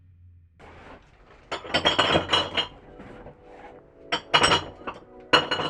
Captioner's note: squeaking bottles